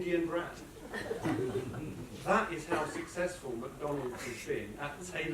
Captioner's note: laughter